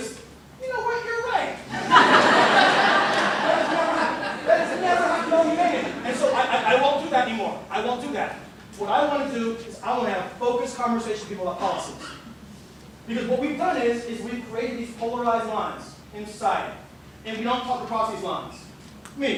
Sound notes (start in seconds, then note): 1.7 laughter